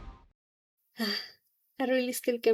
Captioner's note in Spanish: suspiro